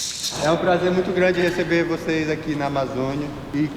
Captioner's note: non-english speech